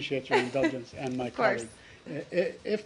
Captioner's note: laughter